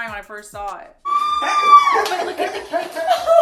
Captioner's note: screams loudly